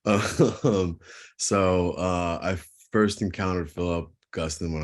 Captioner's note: chuckle